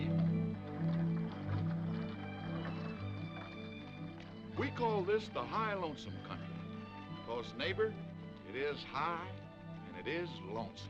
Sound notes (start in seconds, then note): 0.0 horse hooves clopping; 3.7 gentle music